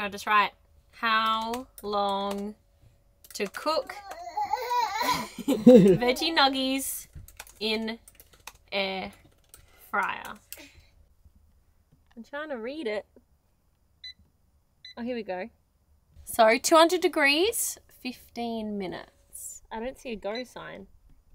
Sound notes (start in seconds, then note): 4.0 laughs; 4.5 shouting; 14.1 air fryer beeping